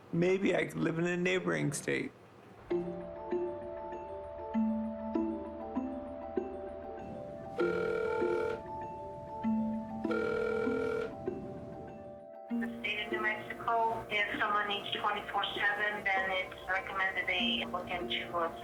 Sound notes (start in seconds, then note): 3.2 subtle music; 7.5 phone ringing